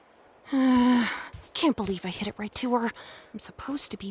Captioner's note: sighs